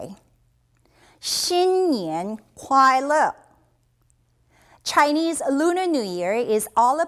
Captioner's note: speaking in a Chinese language